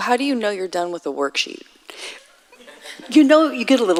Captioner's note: audience laughs